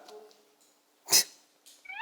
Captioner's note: pfft